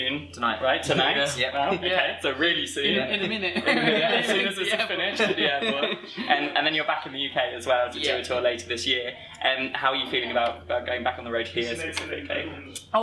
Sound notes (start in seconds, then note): 2.9 laughter